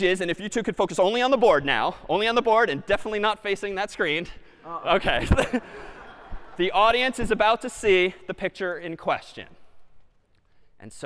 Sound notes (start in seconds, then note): 5.0 laughter